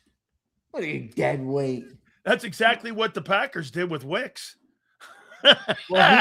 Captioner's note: laughs